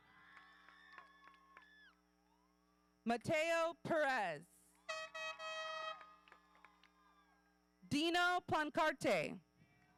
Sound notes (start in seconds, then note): 0.0 audience cheering; 4.9 horns honking